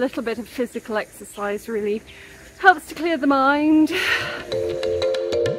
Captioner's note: deep sigh; upbeat music